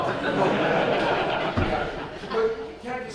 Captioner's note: audience laughs